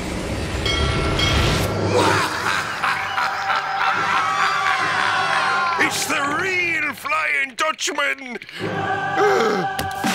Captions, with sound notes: [laughing] [screaming] It's the real Flying Dutchman.